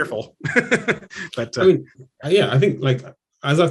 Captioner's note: laughs